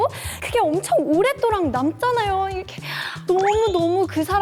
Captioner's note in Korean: 열변